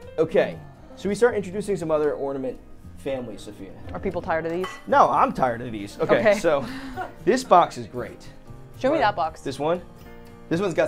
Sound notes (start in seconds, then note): 6.0 laughs